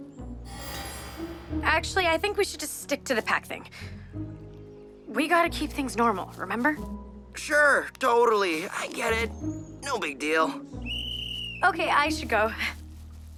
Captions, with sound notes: [soft music] Actually, I think we should just stick to the Pack thing. We gotta keep things normal, remember? Sure! Totally! I get it! No big deal! [whistle blows] OK. I should go.